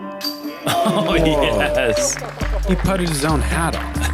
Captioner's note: chuckles